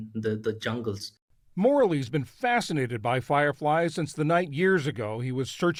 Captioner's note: voice-over